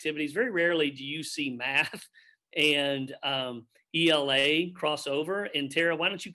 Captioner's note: chuckles